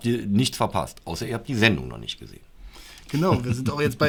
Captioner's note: laughter